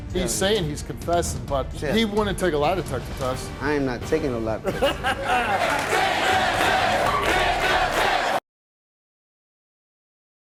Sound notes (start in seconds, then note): 5.2 audience chanting